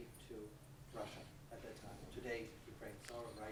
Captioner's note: speaks off microphone